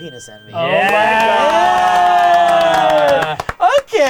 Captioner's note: all cheering